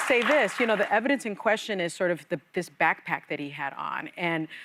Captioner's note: applause